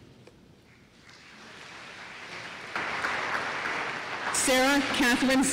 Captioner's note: applause